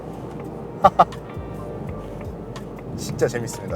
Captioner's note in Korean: 웃음